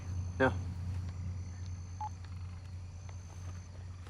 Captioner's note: cell phone beeps